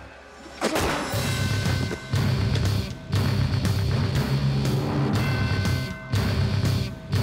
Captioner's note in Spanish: detonación de disparo